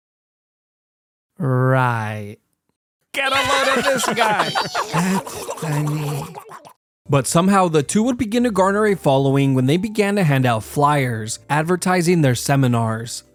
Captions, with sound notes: Right!? *laughter* But somehow the two would begin to garner a following when they began to hand out fliers advertising their seminars.